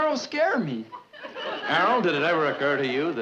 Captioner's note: audience chuckling